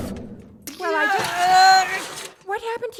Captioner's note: grunts and yells